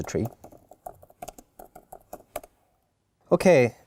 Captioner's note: keyboard clicking